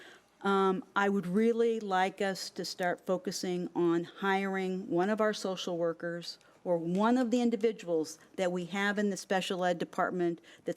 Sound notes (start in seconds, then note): none